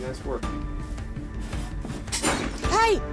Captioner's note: shattering